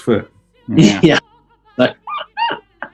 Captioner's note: chuckling